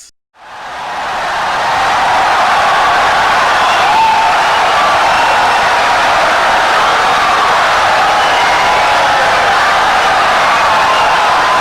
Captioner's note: wild applause and cheering for 17 seconds